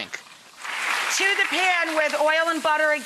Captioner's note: audience applauding